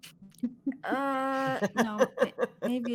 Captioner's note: laughing